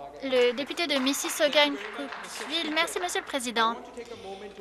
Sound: applause

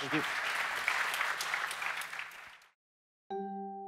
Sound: applause

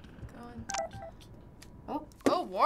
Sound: phone beeps

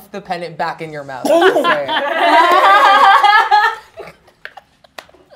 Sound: laughing; chuckling

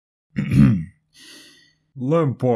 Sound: ahem; deep breath

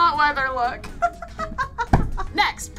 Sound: laughing

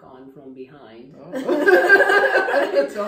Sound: both laughing

